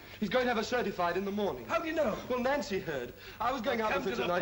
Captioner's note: none